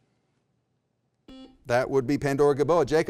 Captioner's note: beep